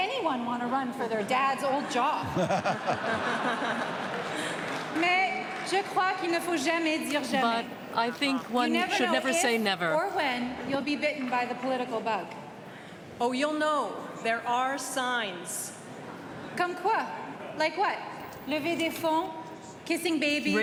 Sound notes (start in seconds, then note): 5.9 laughter